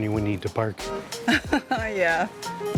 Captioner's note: laughs